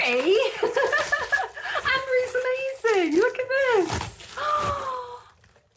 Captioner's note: laughing; gasp